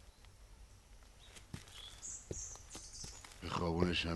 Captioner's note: birds singing